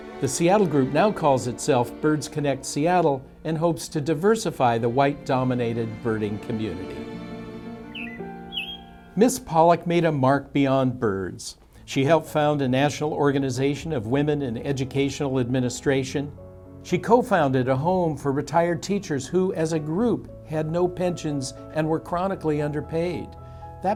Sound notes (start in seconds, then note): 7.8 bird chirping